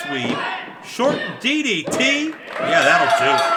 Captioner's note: fans clapping